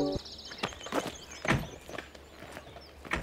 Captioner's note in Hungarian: cardoor slams